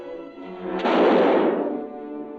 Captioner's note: gunshot